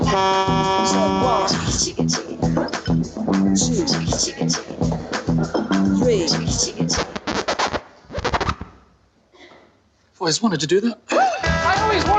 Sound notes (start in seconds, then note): 0.0 truck horn honking; 7.0 record scratching